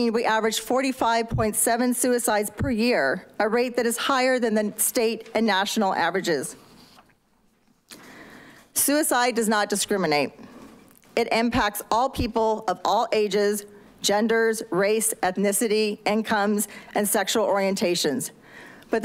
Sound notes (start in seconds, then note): none